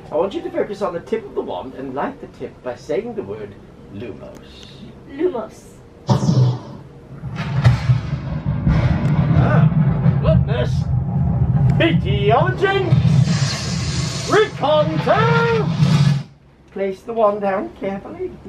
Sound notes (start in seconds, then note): 6.1 magic zapping; 7.4 thunder crashing